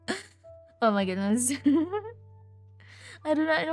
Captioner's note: laughs